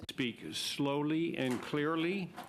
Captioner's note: speaking French